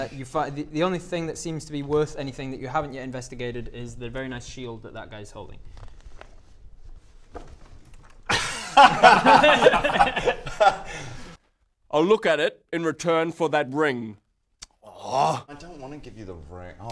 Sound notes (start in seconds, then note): 8.2 unsurprised laughter